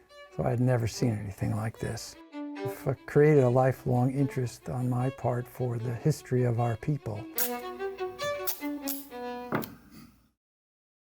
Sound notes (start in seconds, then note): 8.3 tape ripping